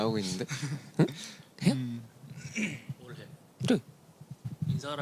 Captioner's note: clears throat